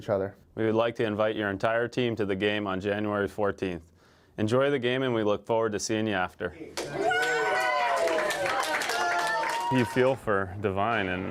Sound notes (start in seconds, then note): 6.7 cheering and applause